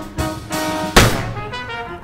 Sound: gunshot

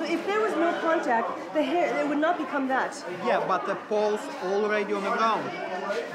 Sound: none

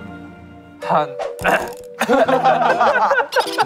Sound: ahem

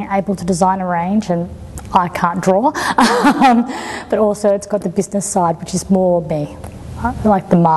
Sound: chuckles

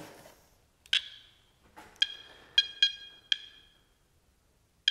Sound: metal detector beeps

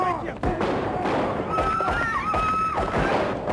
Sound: gunfight starts up, people scream

